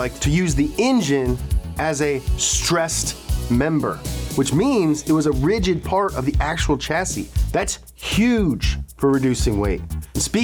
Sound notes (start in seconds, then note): none